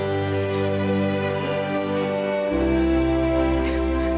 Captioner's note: heavy sobbing